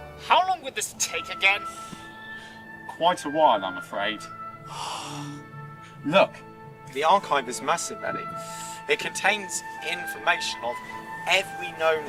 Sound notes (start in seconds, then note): 4.6 eddie sighs